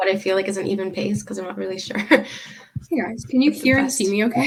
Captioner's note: laughing